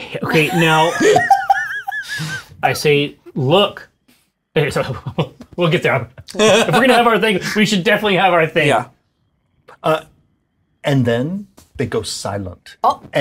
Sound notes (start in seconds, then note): 0.2 all laugh; 4.3 stammers